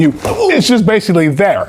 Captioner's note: kick thumps